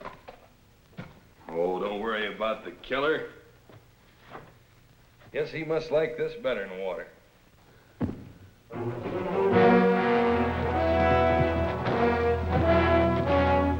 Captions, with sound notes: - Oh, don't worry about the killer. Guess he must like this better than water. (foot thuds) (dramatic orchestral music)